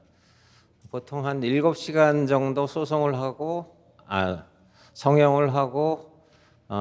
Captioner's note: continues speaking in Korean